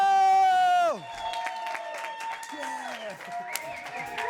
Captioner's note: applause